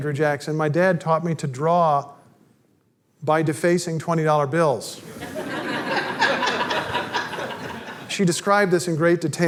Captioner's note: audience laughter